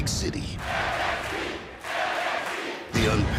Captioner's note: fans chanting